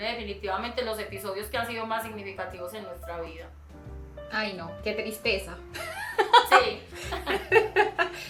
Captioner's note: laughs